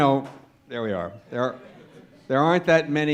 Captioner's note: laughter